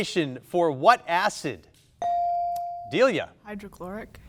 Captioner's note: buzzer dinging